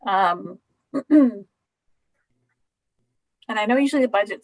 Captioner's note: clearing throat